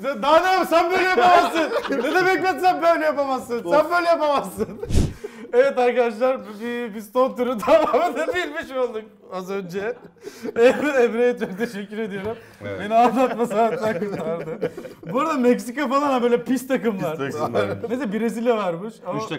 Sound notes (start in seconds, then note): 11.3 laughs